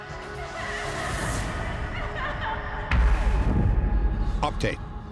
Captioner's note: crying